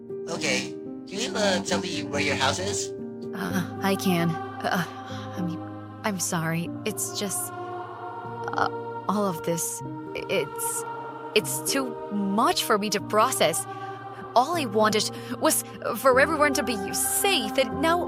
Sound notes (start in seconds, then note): 5.4 sigh